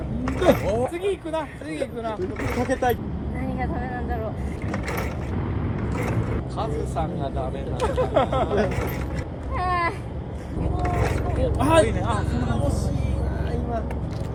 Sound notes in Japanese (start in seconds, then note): 9.1 はぁ